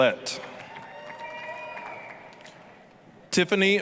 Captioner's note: applause, cheering